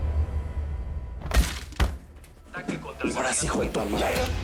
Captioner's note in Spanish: Voz en la T.V